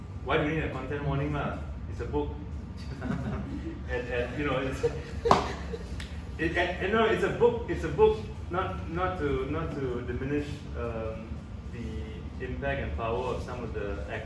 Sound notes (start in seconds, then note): 2.9 audience laughs; 6.5 continues laughing